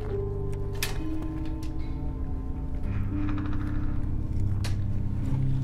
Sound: somber minimal music continues; metal latch reverberating

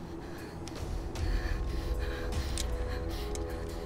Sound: Googly breathing heavily

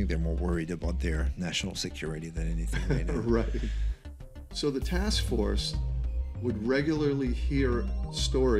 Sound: laughter

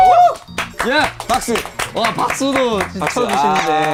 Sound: staff are clapping

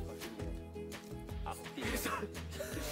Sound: laughs

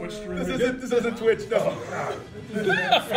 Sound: laugh

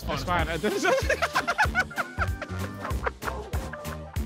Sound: laughing

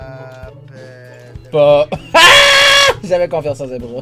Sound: surprised

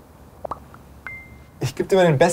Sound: cell phone popping-bling sounds

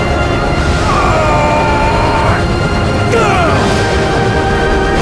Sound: groaning

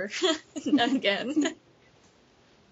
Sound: giggles

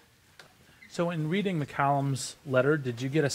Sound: voiceover

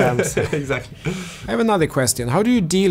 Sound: laughs

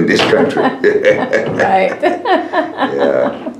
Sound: laughter

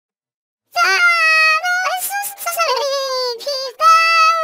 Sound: Alvin crying

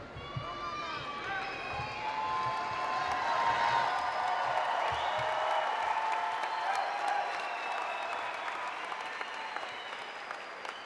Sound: cheering

